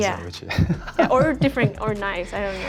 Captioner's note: laughing